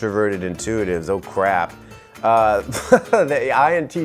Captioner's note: laughs